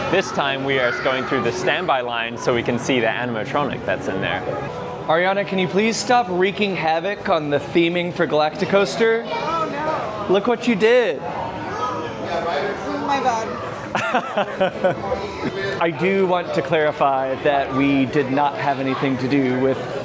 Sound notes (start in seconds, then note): 13.9 laughter